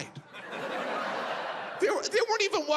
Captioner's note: audience laughs